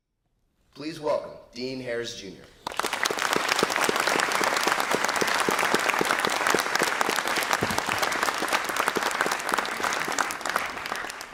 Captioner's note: applause